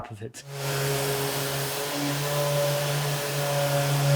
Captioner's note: sander whirring